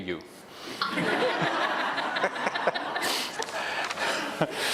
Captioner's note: audience laughs